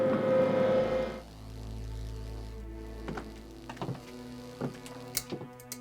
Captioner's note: electricity buzzing; light fixture clicking